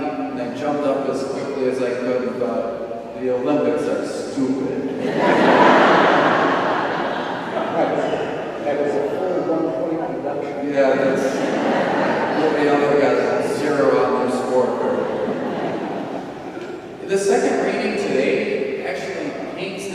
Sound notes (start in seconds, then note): 4.8 audience laughs loudly; 10.1 audience laughing; 15.7 audience laughs